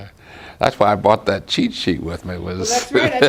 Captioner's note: laughs